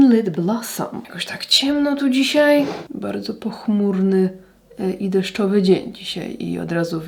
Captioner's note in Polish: parsknięcie